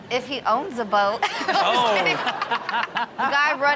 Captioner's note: Rob laughs; audience laughing